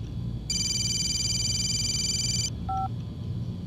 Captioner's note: phone rings